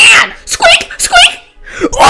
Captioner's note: inhale